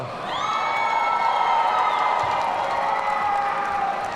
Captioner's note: audience cheering